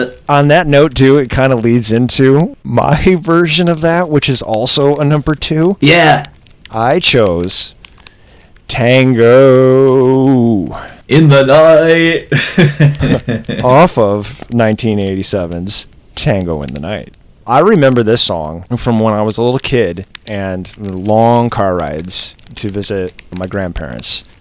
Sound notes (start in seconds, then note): 11.9 laughs